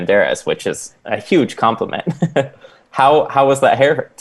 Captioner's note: laughs